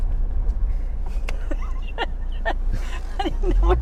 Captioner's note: laughs